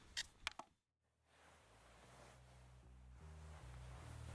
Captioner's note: sheets rustling